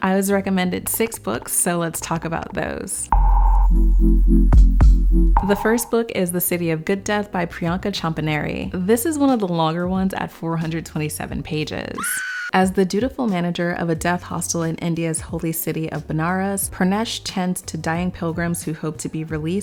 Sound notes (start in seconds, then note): 3.0 gentle music; 11.9 woman screaming